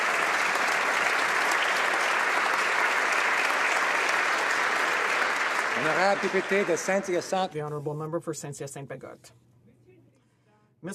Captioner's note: applause